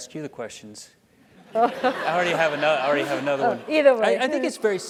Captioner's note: laugh